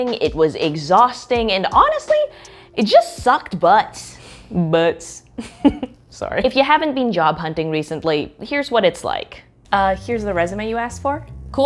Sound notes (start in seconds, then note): 5.4 chuckles